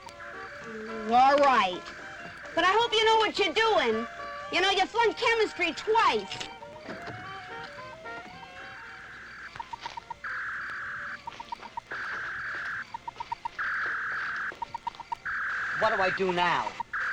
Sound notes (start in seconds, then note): 0.3 upbeat jazzy music; 9.5 beeping; 9.5 whirring